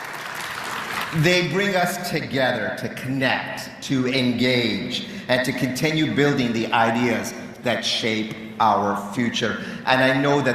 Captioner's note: cheering and Applause